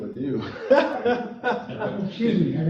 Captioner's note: laughter